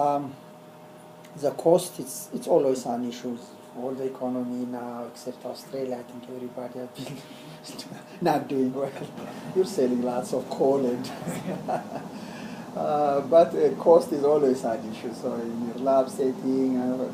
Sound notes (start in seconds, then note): 7.0 laugh; 11.0 laugh